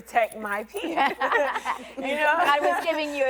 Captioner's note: women laughing